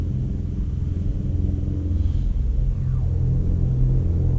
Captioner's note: distant rumbling